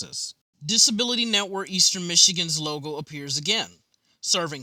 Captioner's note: voiceover